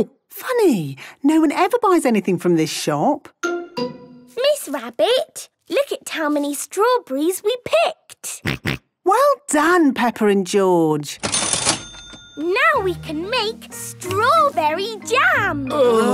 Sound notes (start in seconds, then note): 11.2 till rings; 15.7 groaning